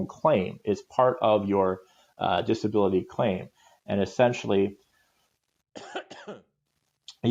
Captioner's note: coughs